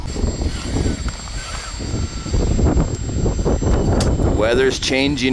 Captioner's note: wind blowing